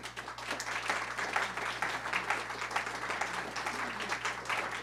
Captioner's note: audience applauding